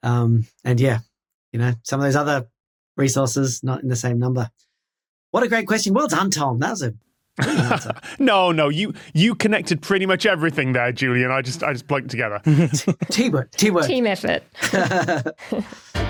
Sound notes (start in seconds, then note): 7.4 chuckles; 14.5 laugh